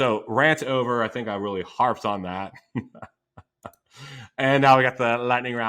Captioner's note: laughs